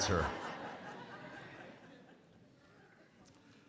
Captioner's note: crowd laughs